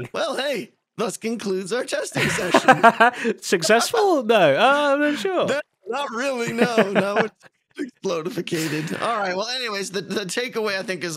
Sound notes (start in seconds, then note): 3.5 laughs